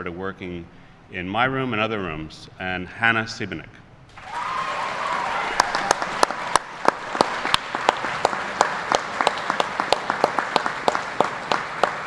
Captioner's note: applause